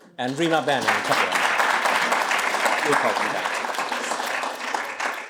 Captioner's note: applause